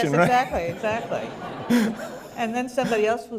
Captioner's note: laughter